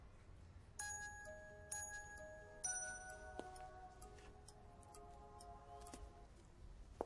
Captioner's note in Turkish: telefon çaliyor